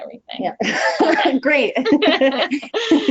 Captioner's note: chuckles